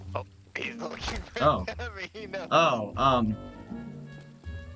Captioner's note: chuckles guiltily